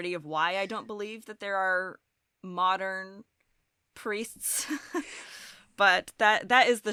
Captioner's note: chuckles